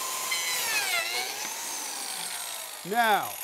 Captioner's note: machine whirs